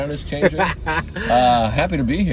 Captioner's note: laughing